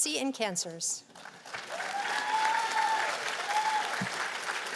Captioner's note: cheers and applause